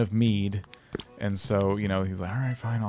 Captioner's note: barrels plop